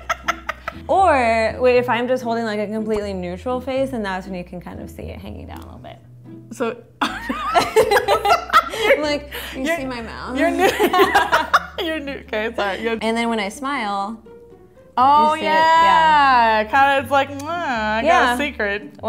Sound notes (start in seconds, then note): 7.1 laughing